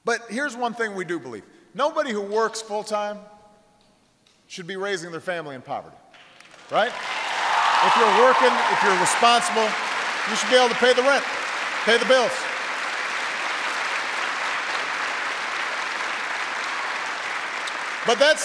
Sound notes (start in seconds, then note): 9.4 applause